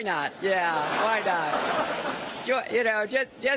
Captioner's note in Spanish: risas